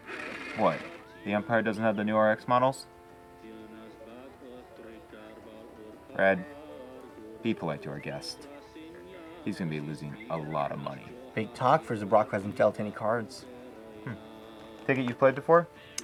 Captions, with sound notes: What, the Empire doesn't have the new RX models? [RED beeps] RED, be polite to our guest. He's going to be losing a lot of money. Big talk for a Zabrak that hasn't dealt any cards. Hm. Figured you've played before?